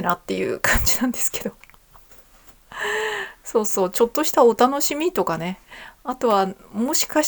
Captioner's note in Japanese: 息をのむ音